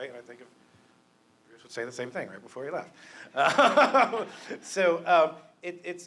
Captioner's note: laughter